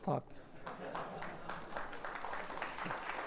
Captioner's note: applause